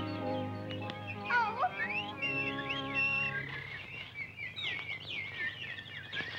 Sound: whistles

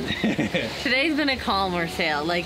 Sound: laughs

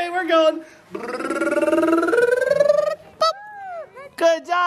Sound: rolling tongue

